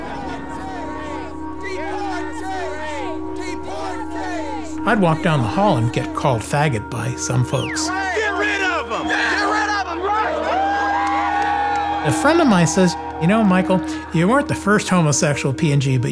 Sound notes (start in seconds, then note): 10.7 cheering